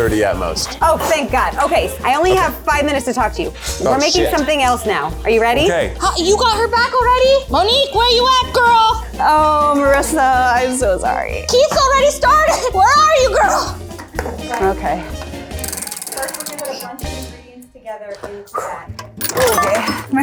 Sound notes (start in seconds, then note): 15.6 wheel spinning